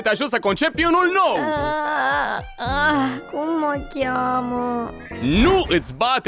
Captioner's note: groaning